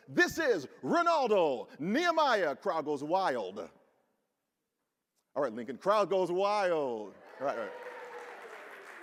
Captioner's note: applause from audience